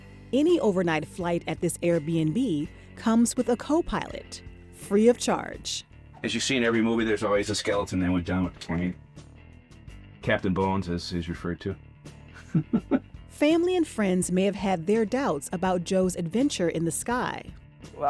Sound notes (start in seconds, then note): 12.3 chuckles